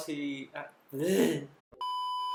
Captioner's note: fumbles for words